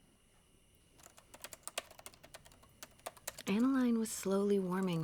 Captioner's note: typing